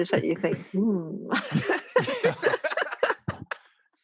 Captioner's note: all laugh